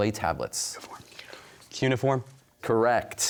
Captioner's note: whispering